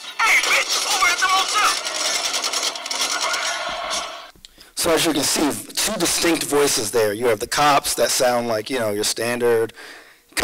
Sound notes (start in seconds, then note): 2.5 gun fire